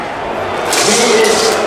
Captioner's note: audience booing, sword clanking; buzzing